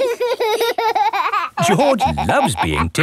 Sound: laughing

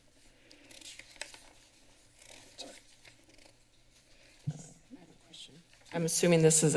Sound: paper shuffling

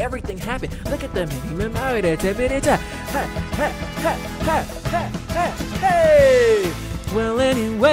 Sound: ha ha ha ha ha ha, hey

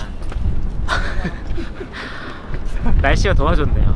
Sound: laughing

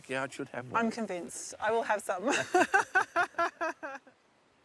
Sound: laughs

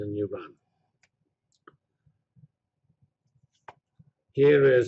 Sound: pause

